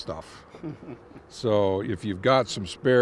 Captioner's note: chuckling